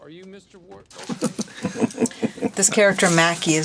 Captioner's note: chuckles